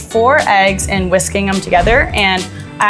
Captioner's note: instructions whooshing